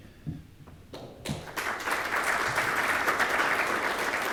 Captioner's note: attendees applaud